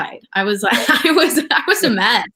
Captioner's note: laughs